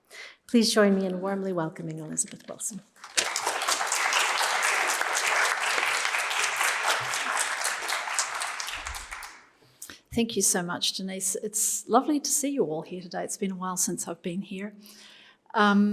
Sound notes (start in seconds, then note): 3.0 applause